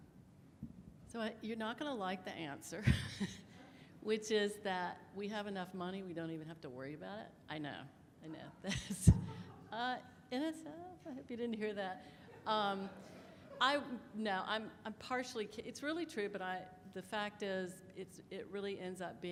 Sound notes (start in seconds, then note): 12.4 audience laughs